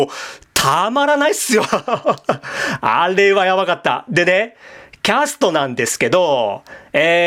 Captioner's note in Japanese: 笑い